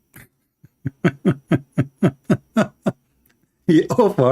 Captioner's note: Ketawa